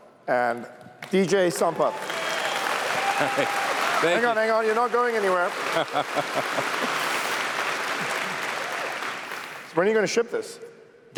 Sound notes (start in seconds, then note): 5.6 laughs; 7.7 applause